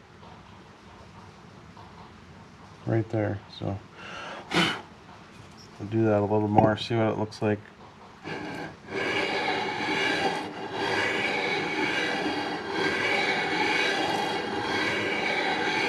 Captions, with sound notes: right there. So, [snorts] do that a little more. See what it looks like.